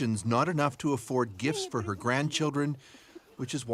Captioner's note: speaking russian